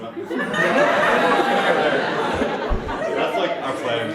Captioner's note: audience laughs